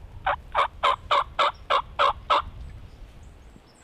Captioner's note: turkey call; turkey gobbles